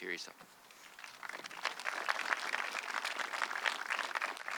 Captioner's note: audience clapping